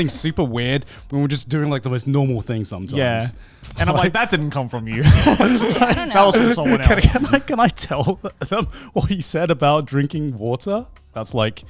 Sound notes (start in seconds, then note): 6.6 laughs